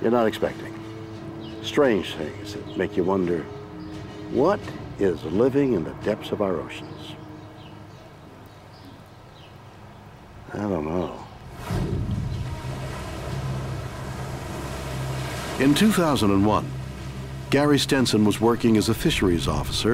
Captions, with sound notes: you're not expecting, strange things that make you wonder, what is living in the depths of our oceans? I don't know. (water whooshing) In 2001, Garry Stenson was working as a fisheries officer